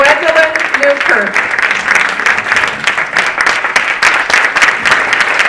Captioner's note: audience applauding